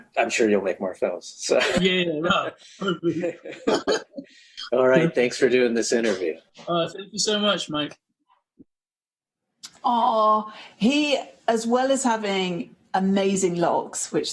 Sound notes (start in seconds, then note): 2.2 laughs; 2.8 laughter